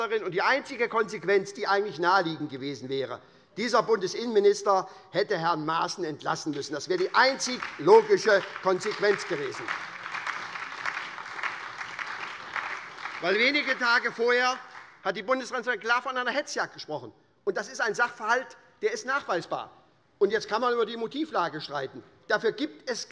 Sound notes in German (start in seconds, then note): 9.6 Beifall bei der SPD und bei Abgeordneten der LINKEN